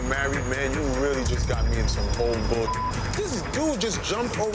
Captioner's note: beep